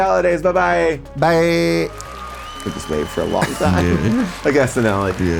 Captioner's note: audience cheering